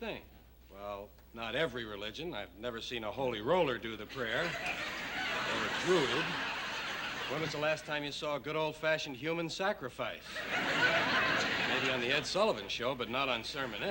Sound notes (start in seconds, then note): 10.2 laughter